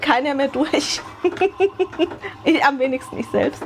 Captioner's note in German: gelächter